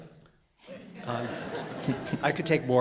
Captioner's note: laughter